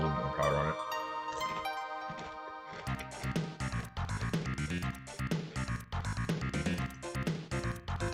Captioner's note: chews of moderate enjoyment